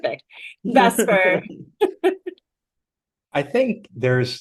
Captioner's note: laughter